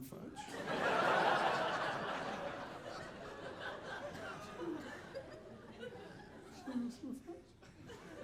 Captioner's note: audience laughing